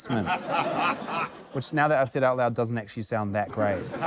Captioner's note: laughter